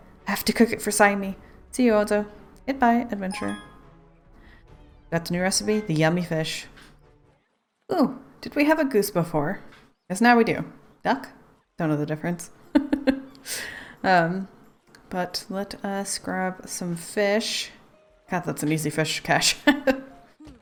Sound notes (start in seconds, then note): 13.0 laughs; 20.0 laughs